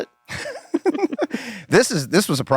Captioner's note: Rob and Glenn laugh